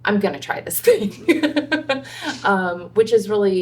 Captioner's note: laughs